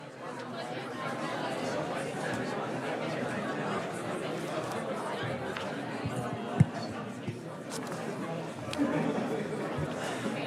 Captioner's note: students chattering